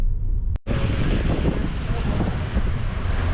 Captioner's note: traffic noises